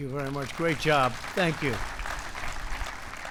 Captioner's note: applause